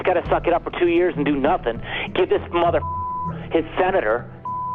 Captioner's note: beep